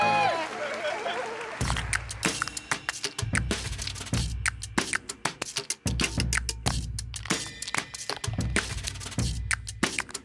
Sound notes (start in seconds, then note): 0.4 laughter